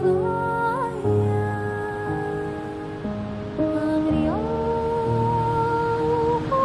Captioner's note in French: Bruit de vagues